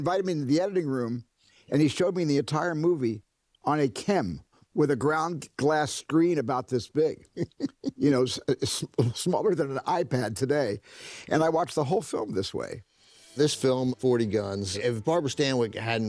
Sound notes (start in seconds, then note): 7.2 chuckling